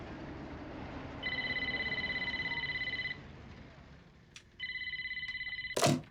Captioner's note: phone ringing